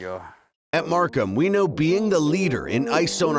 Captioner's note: voiceover